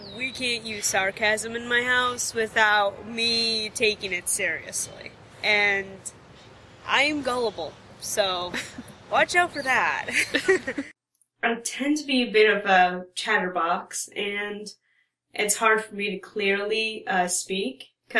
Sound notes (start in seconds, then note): 10.0 laughs